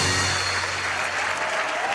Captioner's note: cheering